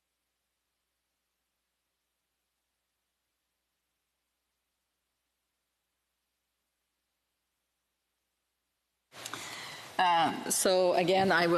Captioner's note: no audio